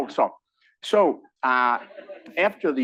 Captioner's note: laugh